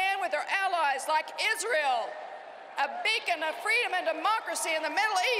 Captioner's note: cheering and applause